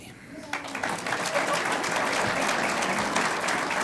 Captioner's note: audience applauds